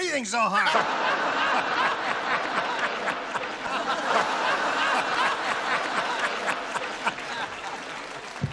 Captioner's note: laughter